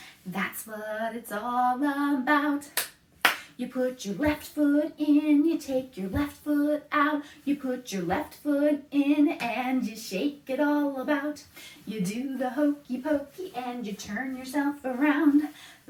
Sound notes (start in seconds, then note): 3.2 clap, clap